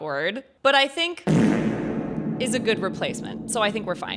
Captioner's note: reverb fart